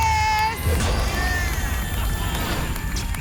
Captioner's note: boom; whoosh; applause and cheering